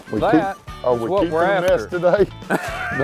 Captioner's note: laughs